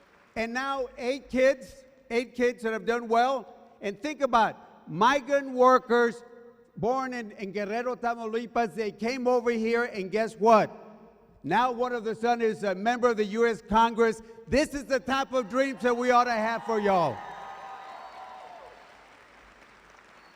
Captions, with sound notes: and now eight kids, eight kids that have done well, and think about it. Migrant workers born in (speaking foreign language), they came over here and guess what? Now one of their son is a member of the US Congress. This is the type of dreams that we oughta have for y'all. (cheering)